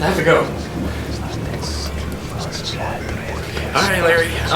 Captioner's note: ghostly whispering